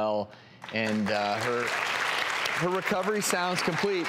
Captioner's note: clapping